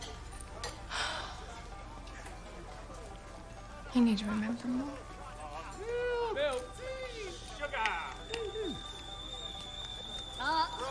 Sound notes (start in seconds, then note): 0.9 sighs; 6.8 tea kettle whistling